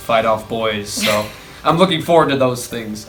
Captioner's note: laughs